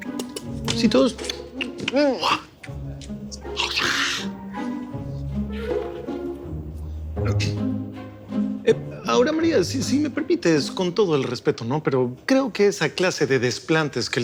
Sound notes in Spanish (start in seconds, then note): 2.1 Exclamaciones